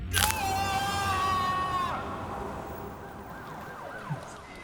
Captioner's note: prisoner screaming